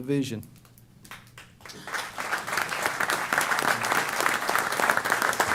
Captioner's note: applause